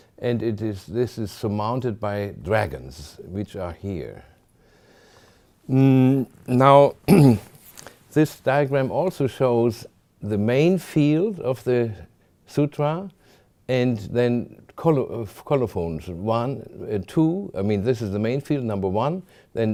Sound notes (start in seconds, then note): 7.0 clears throat